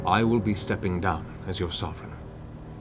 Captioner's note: none